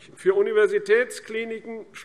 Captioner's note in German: none